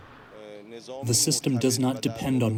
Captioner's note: through translator